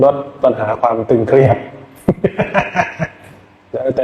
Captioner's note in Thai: เสียงหัวเราะ